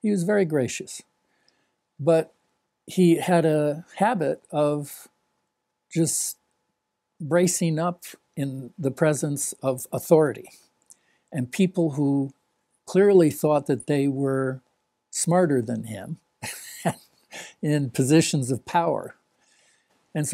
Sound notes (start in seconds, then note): 16.4 laughs